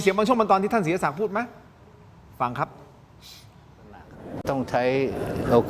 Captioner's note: takes a breath